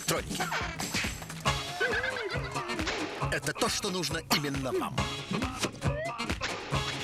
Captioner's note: slap